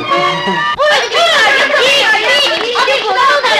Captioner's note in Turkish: Çocukların oyunları ortam gürültüsü